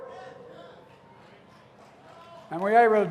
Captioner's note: applause